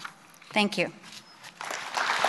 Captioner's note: applause